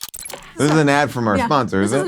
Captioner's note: logo whirs